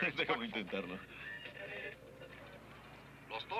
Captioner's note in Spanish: sonido de cambio de estación